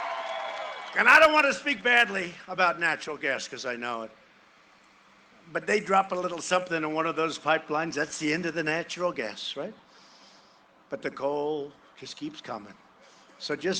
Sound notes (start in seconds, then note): 3.1 cheering and applause